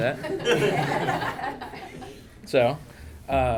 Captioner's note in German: Lachen